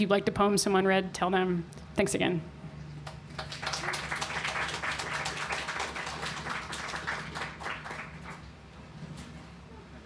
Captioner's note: clapping